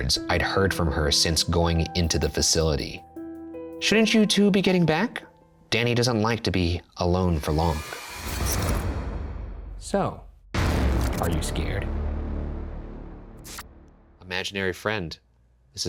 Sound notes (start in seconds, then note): none